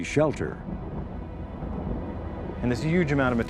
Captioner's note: loud crackling